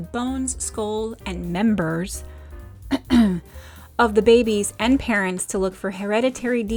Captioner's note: coughs